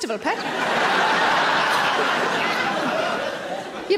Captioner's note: audience laughing